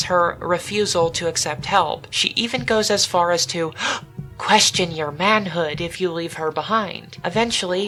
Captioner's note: gasp!